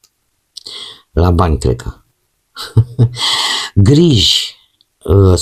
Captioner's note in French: rires